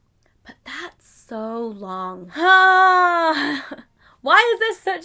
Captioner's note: laughs